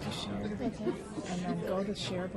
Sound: voiceover

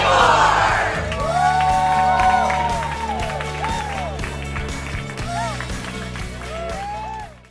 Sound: cheering and applause

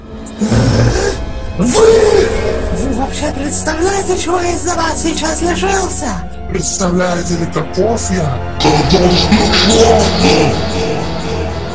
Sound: growl

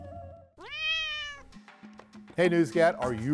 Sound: cat meowing

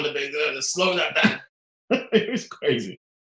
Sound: laughing

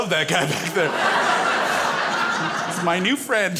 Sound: crowd laughs

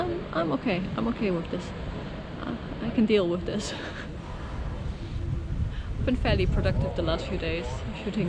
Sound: laughs

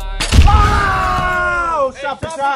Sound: cannon firing and primal screaming

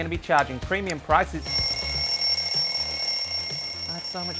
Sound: alarm ringing

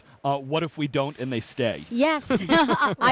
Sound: laughs

